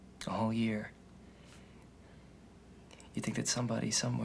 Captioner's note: none